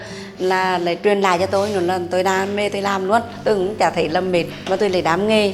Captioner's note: speaking a foreign language